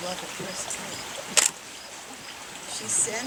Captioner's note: click!!!